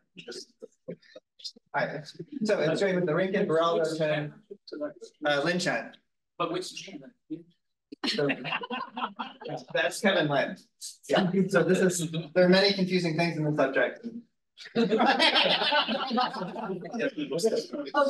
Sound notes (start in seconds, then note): 1.7 group chattering; 8.0 group laughing; 14.7 group laughs